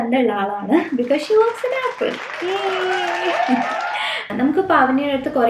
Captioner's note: applause